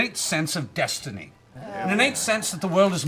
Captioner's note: groaning